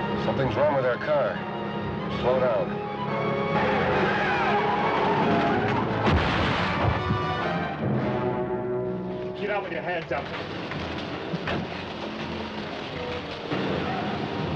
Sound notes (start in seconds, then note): 3.1 tires screeching; 6.2 car crashing